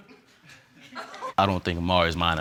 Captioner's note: audience chuckling